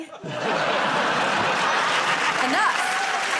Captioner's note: laughter